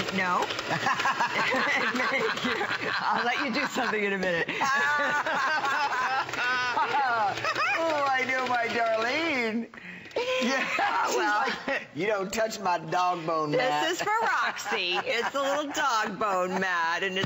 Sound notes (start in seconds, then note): 8.7 laughter